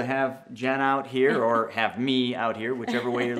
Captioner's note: laughs